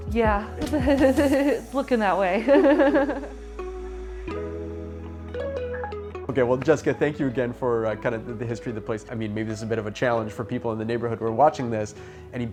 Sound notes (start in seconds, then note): 2.4 laughing; 4.2 gentle music